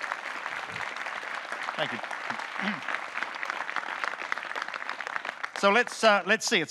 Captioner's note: audience clapping